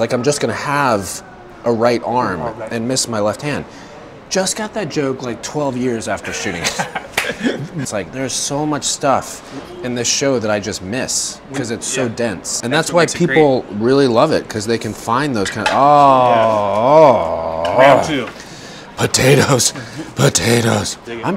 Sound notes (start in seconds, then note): 6.3 laughs; 15.8 Tony growls